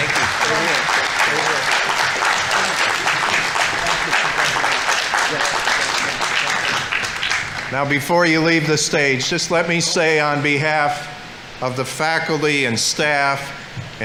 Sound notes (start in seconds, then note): 2.2 audience applauding; 3.9 people chattering